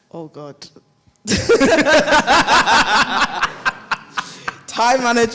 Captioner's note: all laugh